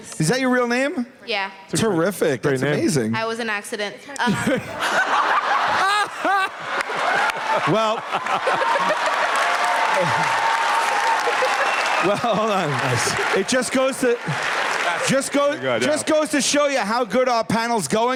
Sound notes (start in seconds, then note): 4.2 laughter; 7.1 cheers and applause